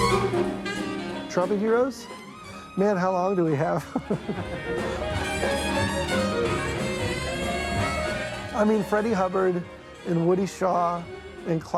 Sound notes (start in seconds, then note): 3.8 chuckles; 11.5 trumpet wailing